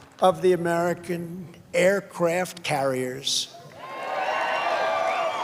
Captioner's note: applause